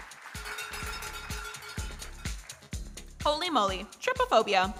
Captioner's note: bell clanking